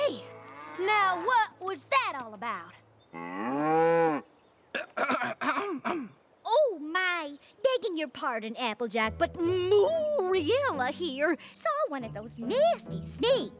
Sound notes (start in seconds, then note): 4.7 clears throat